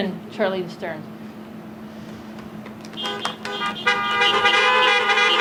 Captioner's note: applause